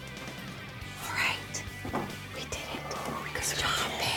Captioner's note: whispering